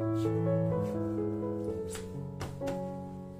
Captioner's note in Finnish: none